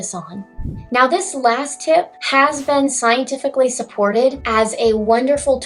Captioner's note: swoosh